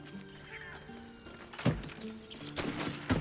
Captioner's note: none